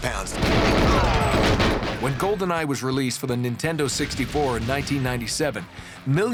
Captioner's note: gunfire